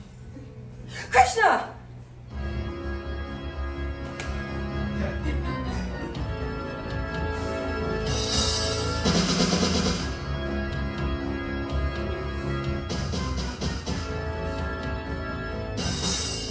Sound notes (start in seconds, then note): 0.8 gasp; 2.2 dramatic instrumental music